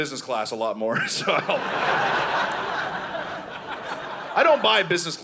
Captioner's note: audience laughing